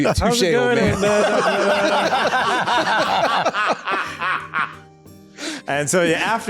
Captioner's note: laughter